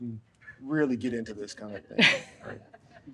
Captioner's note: laughs; audience laughs